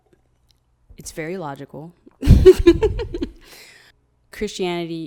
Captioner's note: laughs